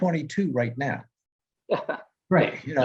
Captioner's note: laughter